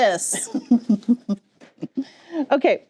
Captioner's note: chuckles